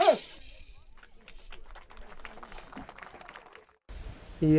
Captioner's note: applause